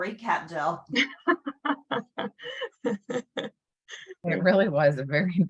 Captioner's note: laughs